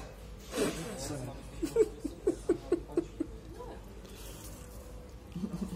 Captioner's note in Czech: Smích